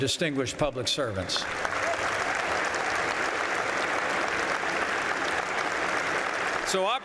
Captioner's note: applause